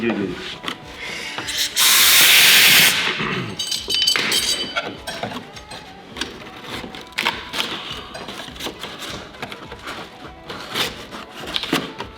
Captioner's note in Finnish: taustahälinää